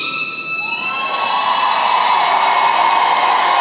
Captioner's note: cheering & applause